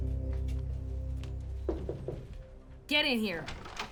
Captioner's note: door knocks